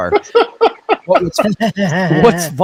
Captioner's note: men laugh